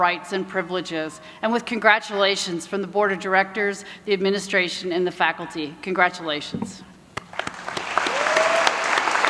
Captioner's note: applause